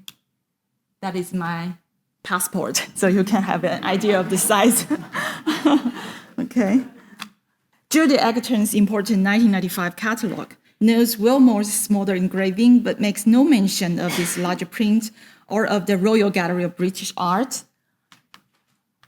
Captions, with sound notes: That is my passport, so you can have an idea of the size. (audience laughs) Okay. Judy Egerton's important 1995 catalogue notes Willmoore's smaller engraving, but makes no mention of this larger print or of "The Royal Gallery of British Art."